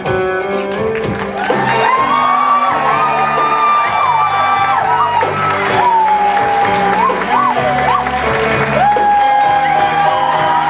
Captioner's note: audience cheers and applause